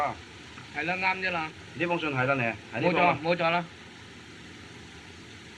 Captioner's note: men Speaking Chinese